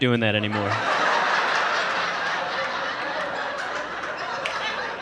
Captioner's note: audience laughing